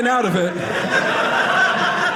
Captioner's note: audience laughing